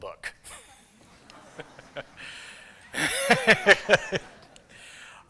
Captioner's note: laughter